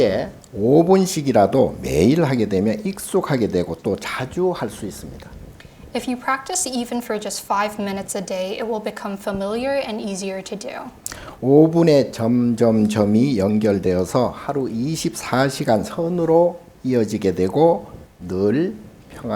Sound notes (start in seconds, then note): 0.1 speaking Korean; 11.5 speaking Korean